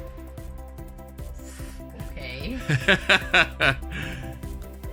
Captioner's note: laughs; exhales